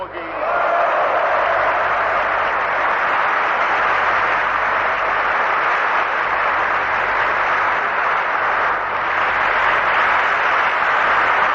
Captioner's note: applause